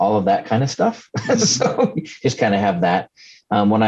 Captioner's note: laughs